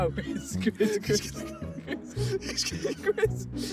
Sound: laughing

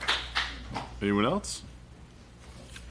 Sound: applause

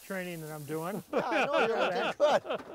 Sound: laughing

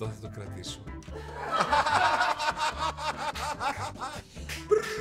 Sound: laughing

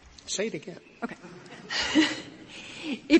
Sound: laughter

